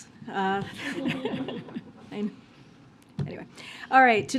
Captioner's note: laughs